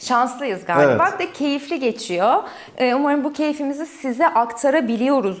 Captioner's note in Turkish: boğazını temizler